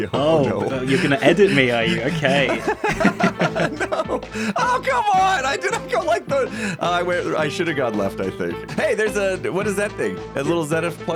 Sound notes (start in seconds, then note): 2.1 laughs; 3.8 laughs; 6.0 frustrated noises